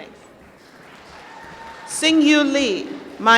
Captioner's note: applause